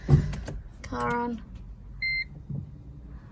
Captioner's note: clicks and beeps